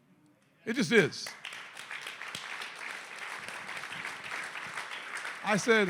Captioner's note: applause